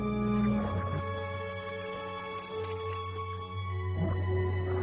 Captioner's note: applause